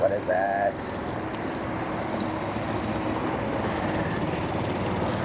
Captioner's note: boat humming